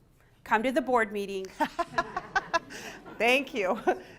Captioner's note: laughter